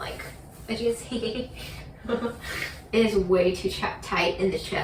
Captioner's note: laughs